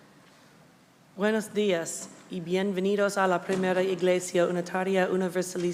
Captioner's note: speaking Spanish